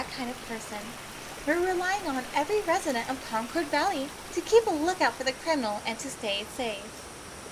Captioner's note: water fades out, sounds of crickets, cicadas, and other insects grow loud